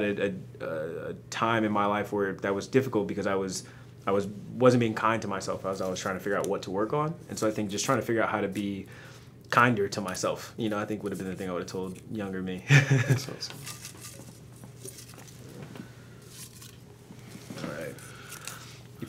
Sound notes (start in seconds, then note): 12.7 laughs